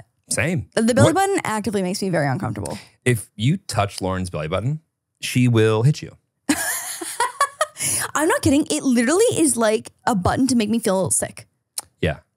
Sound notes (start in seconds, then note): 6.5 laughs